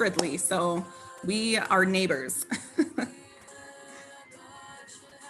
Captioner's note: chuckling